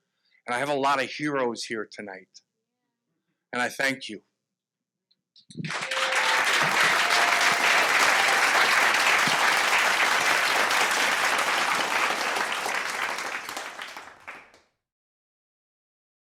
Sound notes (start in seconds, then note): 5.6 audience applauding